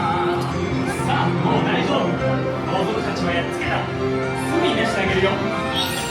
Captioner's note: characters speaking Japanese